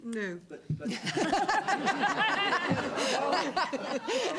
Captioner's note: laughter